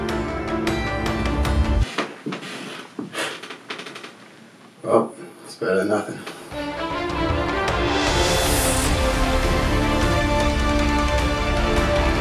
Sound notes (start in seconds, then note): 1.8 floor creaking; 6.5 light dramatic music continues